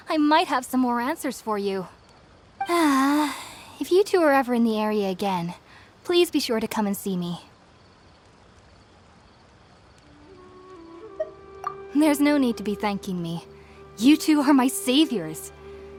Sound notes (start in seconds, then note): 2.6 sigh